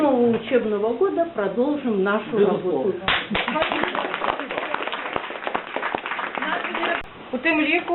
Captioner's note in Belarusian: апладысменты